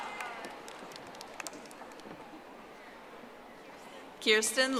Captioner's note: audience applauding